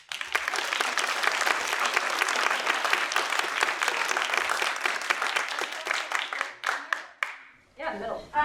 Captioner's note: applause